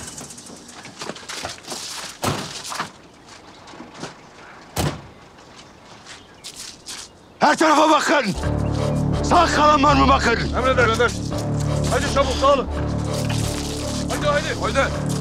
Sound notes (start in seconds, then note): 1.8 car door closes hard; 7.9 thriller soundtrack